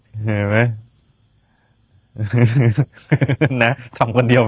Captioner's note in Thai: เสียงหัวเราะ